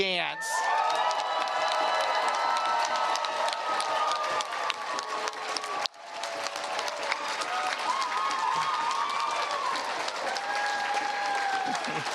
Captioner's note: cheers and Applause